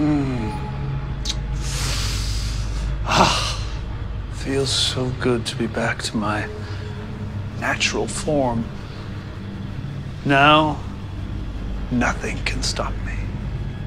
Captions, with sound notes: [Deep inhale] - Ah! It feels so good to be back to my natural form. Now... nothing can stop me.